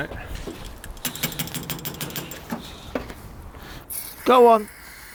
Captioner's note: metallic knocking